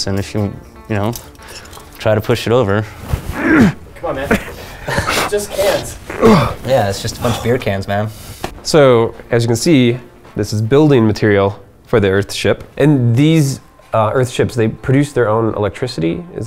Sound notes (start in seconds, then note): 2.9 grunts